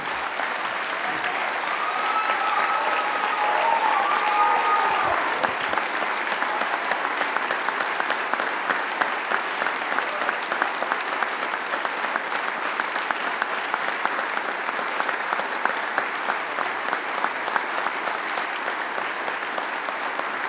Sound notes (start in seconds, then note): 0.3 applause; 3.6 cheering